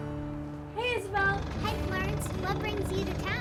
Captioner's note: car chugging